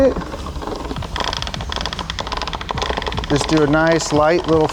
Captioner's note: chain clacking